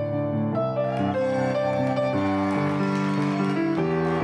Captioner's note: applause